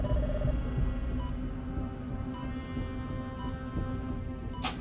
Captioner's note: monitor beeping